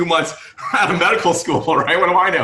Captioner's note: laughing